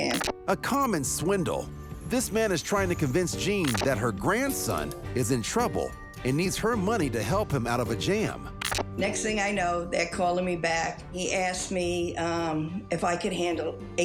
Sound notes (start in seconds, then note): 6.4 phone beeping